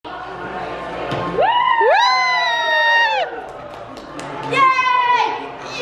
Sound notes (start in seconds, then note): 1.4 whooping